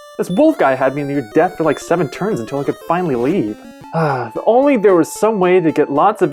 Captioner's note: sigh